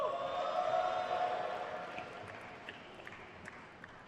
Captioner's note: crowd cheers